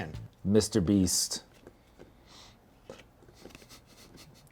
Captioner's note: chuckles